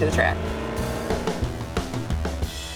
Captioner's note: engine revs